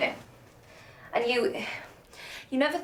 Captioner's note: sighs